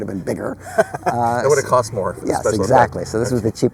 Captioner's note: laughs